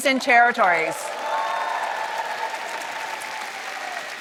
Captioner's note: applause